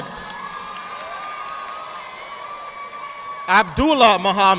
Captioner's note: audience applauding